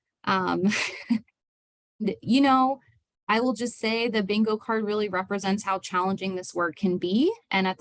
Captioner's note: laughter